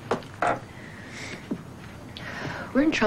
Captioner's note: sighs